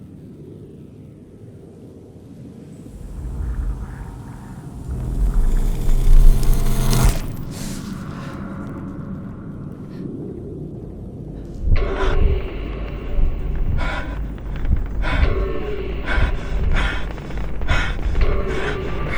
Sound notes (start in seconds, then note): 12.0 dramatic music; 13.5 woman panting